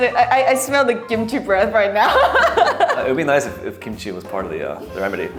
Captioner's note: laughs